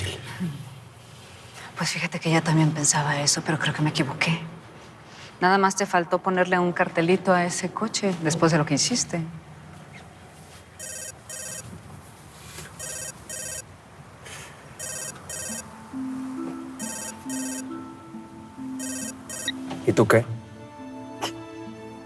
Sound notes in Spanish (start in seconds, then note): 5.6 Suena un celular